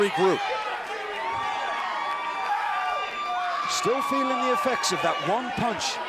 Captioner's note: crowd cheering